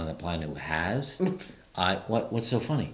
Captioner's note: chuckles